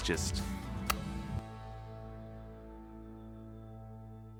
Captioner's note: smooching